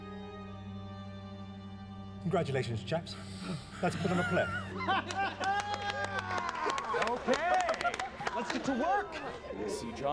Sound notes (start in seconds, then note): 4.2 clapping, laughter